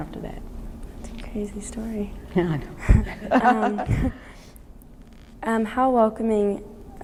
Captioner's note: laughs